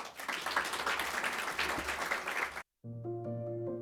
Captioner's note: audience clapping